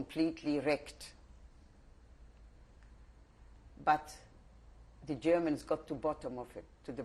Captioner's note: pauses for 3 seconds